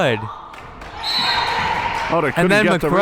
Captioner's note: whistle